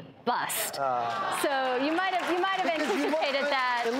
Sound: audience groaning

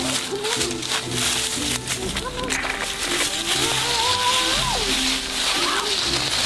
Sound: footsteps rustle in dry leaves

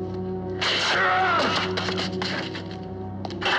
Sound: groans

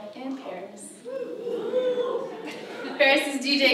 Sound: audience cheers

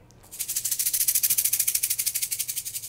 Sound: rattle shakes

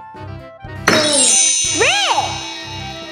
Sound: chimes

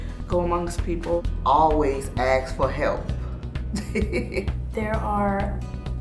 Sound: laughs

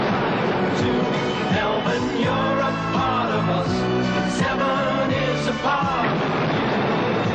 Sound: boom; boom

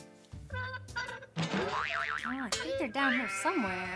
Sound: clanging

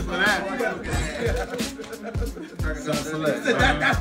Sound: laugh

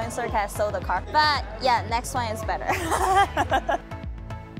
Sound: laughing

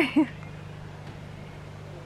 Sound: laughs

